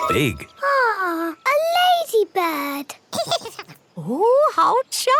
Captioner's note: giggles